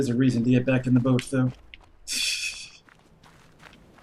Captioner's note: laughs softly